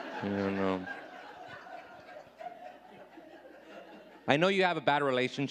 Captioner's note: audience laughing